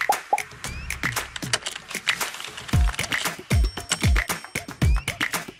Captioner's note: keyboard clacking; upbeat music